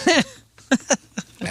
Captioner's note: laughing